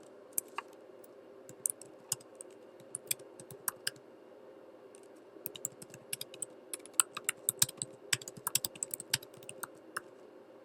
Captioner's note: typing